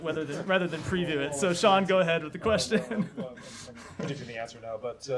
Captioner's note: laughter